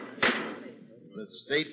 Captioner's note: gavel bangs